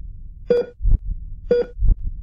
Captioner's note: machine beep